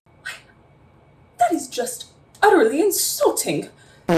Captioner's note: toots